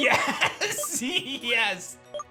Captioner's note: laughs